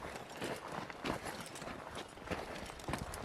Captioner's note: rocky Footsteps